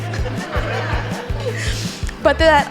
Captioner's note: laughing